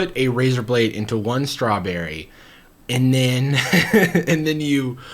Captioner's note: laughs